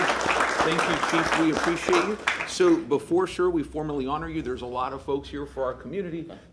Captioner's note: applause